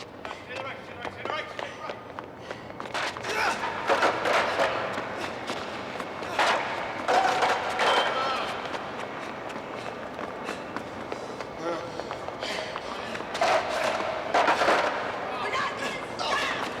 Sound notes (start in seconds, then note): 3.2 shouts; 3.7 clattering